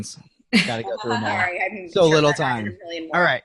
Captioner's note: laughing